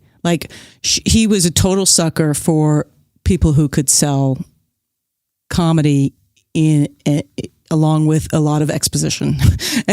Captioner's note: guffaw